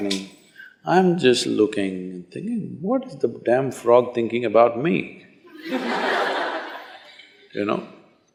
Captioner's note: laughter